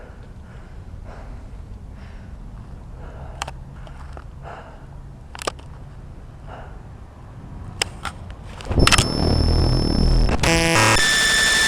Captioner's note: heavy breathing